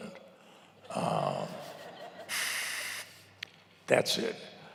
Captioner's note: laughs